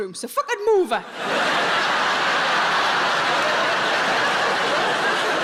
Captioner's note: audience laughing